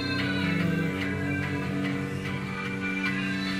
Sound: humming

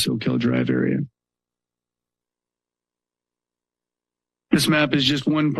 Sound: pause

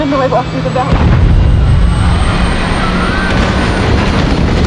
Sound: engine rumbling

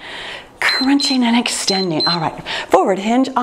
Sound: timer beeps

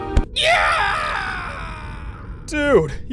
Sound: Arch-Illager yells

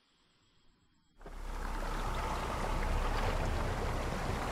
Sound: sound of birds chirping fades; waves crashing

